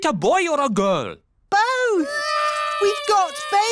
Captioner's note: babies cry